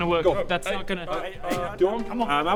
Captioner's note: spits